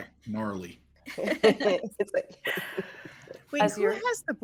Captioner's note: people chuckling